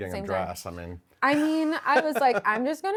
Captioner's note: laughs